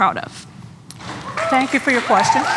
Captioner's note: applause; cheering